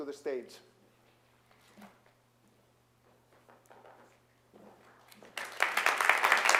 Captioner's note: applause